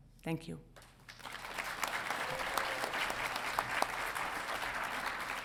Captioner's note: audience applauding